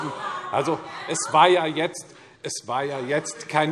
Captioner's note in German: Lebhafte Zurufe